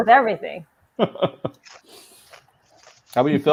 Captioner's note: laughing